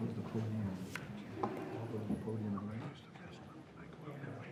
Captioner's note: board members chattering